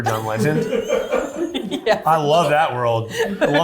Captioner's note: cast laughing